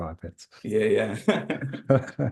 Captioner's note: laughs